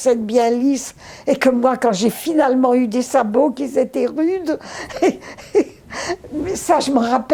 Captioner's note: laughing